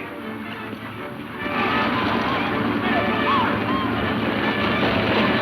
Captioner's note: hooves pounding